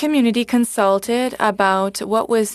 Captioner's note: speaking FRENCH